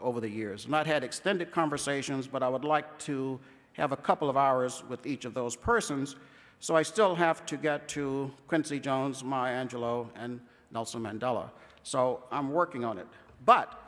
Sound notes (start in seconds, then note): none